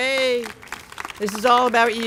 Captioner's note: applause